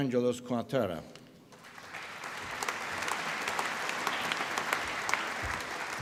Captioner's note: applause